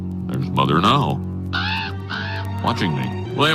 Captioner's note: crow cawing